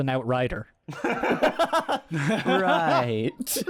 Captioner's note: laughter